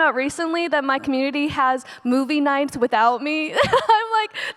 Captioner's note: laughs